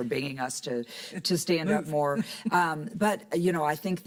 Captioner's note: laughs